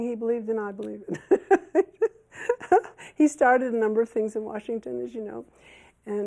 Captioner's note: laughs